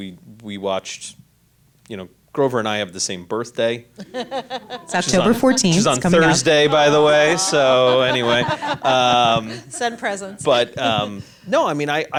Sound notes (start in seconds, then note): 4.0 laughs; 8.4 women laugh